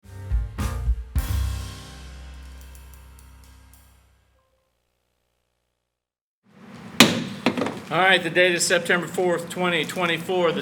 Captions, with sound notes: (bright music) (gavel banging) - All right, the date is September 4th, 2024.